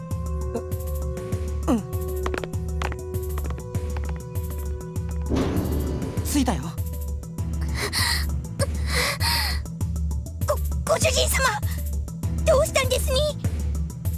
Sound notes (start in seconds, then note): 8.7 pained breathing